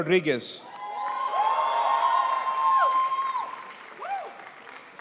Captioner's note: crowd applauds